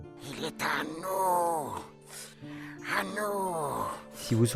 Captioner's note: Gollum voice